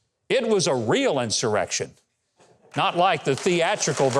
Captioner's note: audience clapping